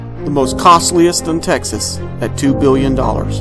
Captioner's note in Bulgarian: none